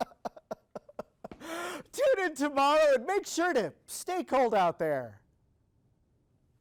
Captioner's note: reporter laughing